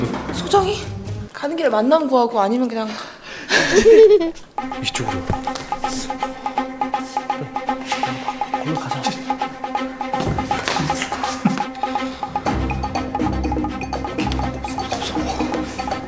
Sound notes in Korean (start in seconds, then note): 3.4 웃음; 3.5 웃음 효과음; 7.6 샤아악, 효과음; 8.6 속삭이는 소리; 14.0 속삭이는 소리